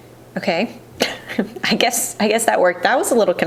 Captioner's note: chuckles